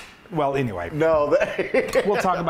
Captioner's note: laughs